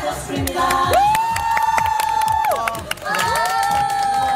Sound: applause

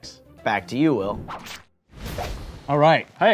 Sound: whooshing

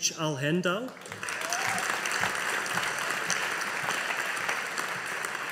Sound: audience applauding

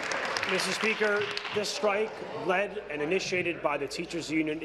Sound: applause

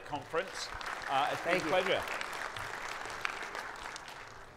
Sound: audience applauding

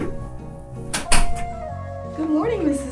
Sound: door clicks

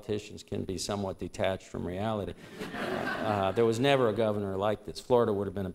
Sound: laughter

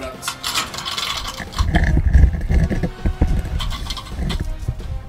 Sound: metal dragging

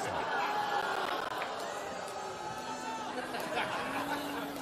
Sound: audience laughs, groans

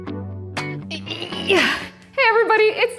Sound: upbeat music; grunts

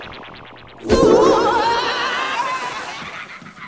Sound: screaming

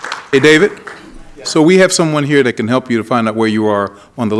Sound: applause

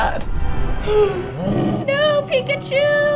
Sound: gasping; Titanmon bellowing

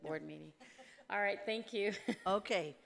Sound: laughing

